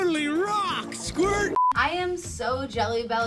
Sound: screen beeps

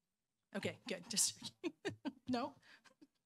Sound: laughing

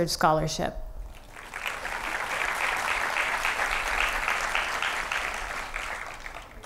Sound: applause

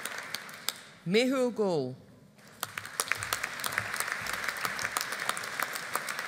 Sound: audience applauding

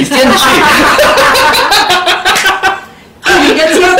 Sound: laughter

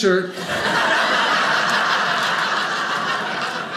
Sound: audience laughing

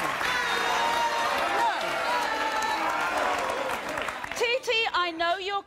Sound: applause

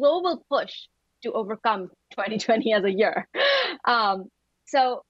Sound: laughs

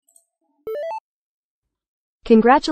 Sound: notification sound

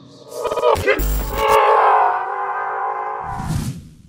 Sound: screams and glitches

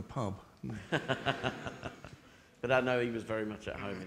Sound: audience laughing

